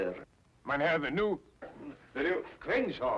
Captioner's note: speaks in foreign language